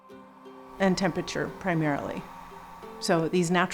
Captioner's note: hair dryer blows